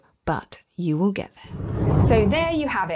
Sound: air whooshes

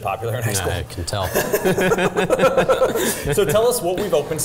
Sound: laughing

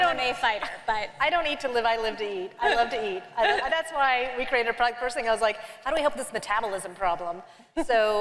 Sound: laughter

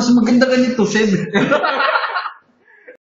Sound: laughter

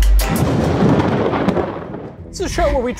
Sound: thunder rumbles

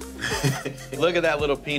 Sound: man laughing

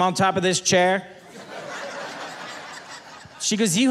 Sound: audience laughing

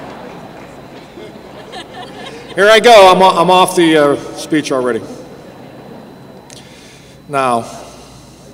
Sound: laughter

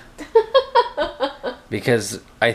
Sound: mom laughing

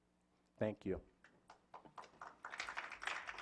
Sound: clapping

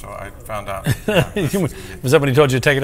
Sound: laughs

